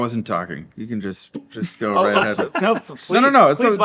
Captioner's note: laughing